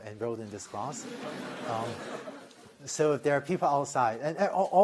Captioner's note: laughter